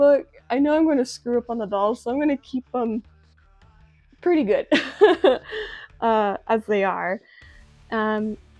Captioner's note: laughs